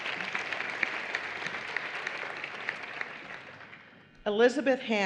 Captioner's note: applause